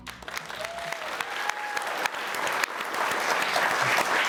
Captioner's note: audience applauding